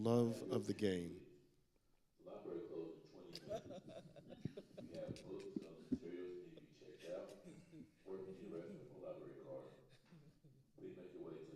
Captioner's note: panelists laughing